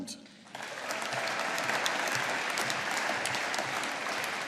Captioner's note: audience applauding